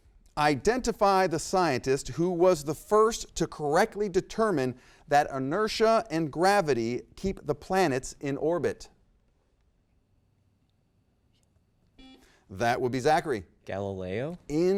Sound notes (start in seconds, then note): 12.0 buzzer rings